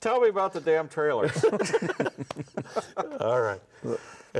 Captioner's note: everyone laughs